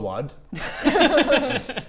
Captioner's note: concerned laughs